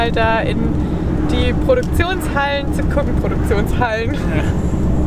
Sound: laughs

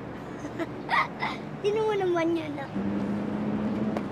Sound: laughs

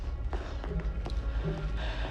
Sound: footsteps approach

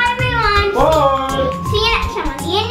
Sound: voiceover

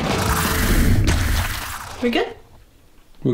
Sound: splash

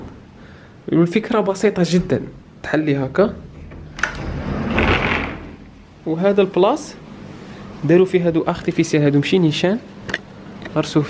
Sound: slide window sound

